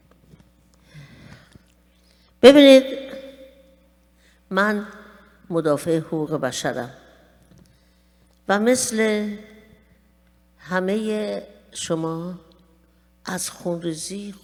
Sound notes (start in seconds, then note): 2.4 speaking persian